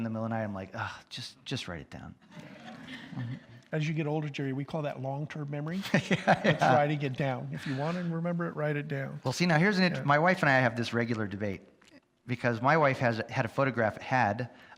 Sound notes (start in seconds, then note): 2.3 audience laughs; 5.8 laughs